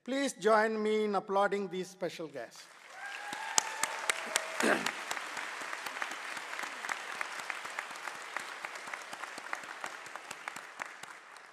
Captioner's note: applause